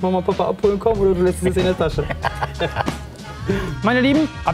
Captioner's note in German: Lachen